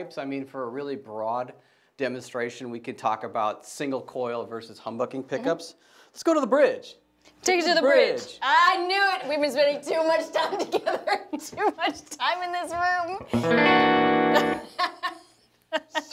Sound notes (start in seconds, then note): 12.9 laughs; 13.2 strums guitar